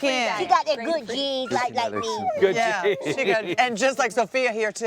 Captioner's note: laughter